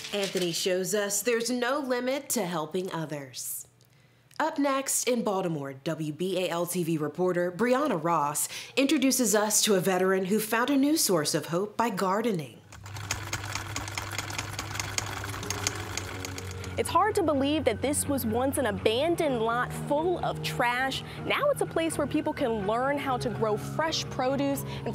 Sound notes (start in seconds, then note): 12.7 film reel rolling